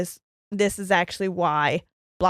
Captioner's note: none